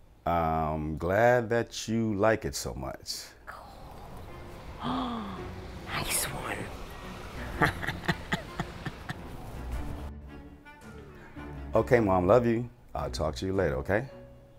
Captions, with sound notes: I'm glad that you like it so much. - Cool. (Ms. Murphy gasps) Nice one. (Ms. Murphy chuckles) - Okay, mom. Love you. I'll talk to you later, okay?